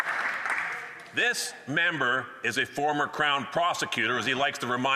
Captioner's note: some Applause